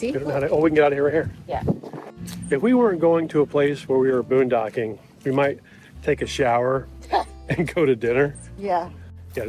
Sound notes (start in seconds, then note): 7.4 chuckling